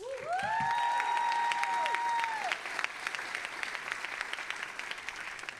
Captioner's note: audience applauding and cheering